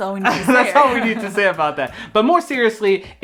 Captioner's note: both laugh